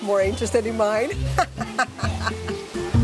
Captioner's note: laughs